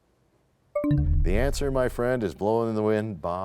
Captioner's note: bell chimes, time expires